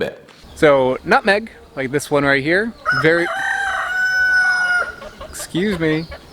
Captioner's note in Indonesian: ayam berkokok